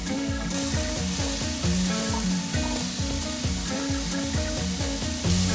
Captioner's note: vegetables lightly sizzle